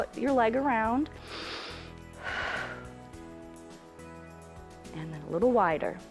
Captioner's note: inhales and exhales